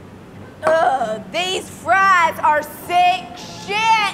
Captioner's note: moaning